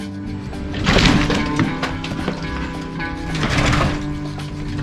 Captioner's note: wood crashing